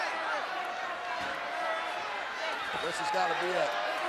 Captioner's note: crowd clamors